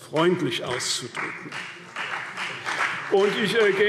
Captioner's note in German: Beifall CDU